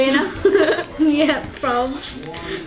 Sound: laughing

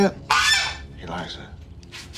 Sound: goose squawks

